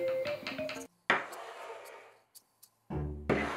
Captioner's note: bowl sliding